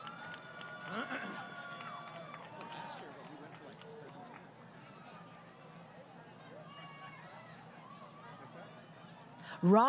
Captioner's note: crowd Cheering